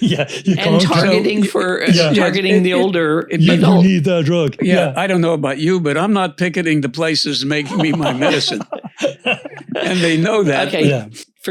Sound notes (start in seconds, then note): 7.4 laughs